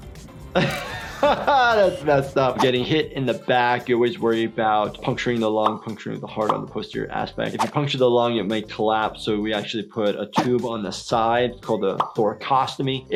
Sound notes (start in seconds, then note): 0.6 laughs